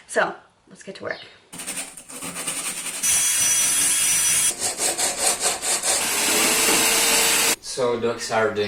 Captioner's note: construction sounds